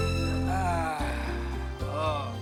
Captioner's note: Mark groaning